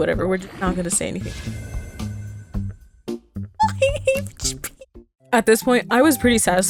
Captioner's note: laugh crying